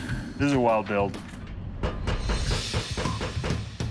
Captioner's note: hammering